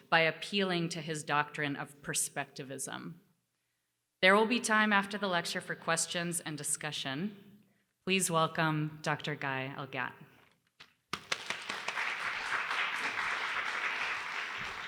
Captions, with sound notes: by appealing to his doctrine of perspectivism. There will be time after the lecture for questions and discussion. Please welcome Dr. Guy Elgat. [APPLAUSE]